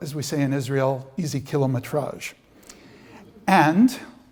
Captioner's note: non-english speech